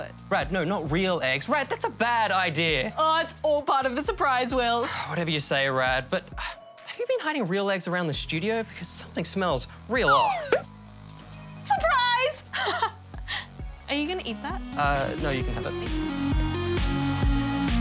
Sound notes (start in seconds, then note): 4.7 sighs; 12.6 laughs